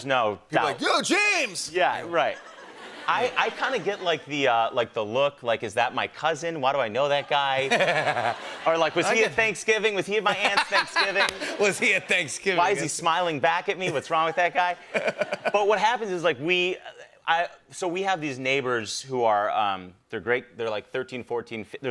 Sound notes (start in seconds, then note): 2.6 light laughter; 7.2 laughter